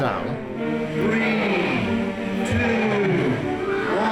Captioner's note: man on loudspeaker